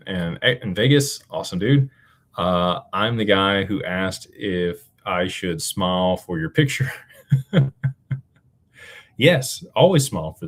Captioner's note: laughter